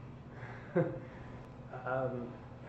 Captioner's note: laughs